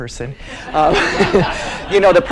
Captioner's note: laughing